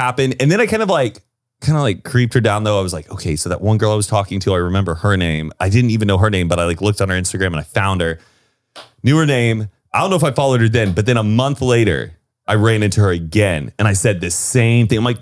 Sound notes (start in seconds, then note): none